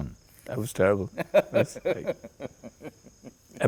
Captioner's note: laughter